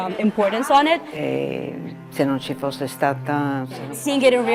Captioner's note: speaking in foreign language